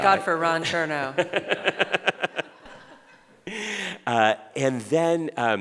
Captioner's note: laughing